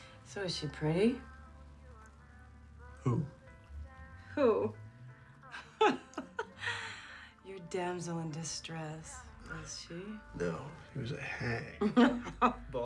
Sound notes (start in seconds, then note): 5.4 laughs